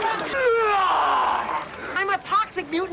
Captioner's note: roaring